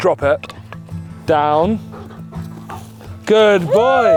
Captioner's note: panting